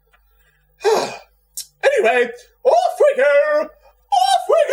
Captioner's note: exasperated sigh